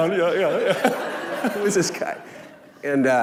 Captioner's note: laughing